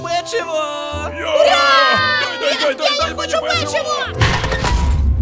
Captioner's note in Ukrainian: Дитячі крики про печиво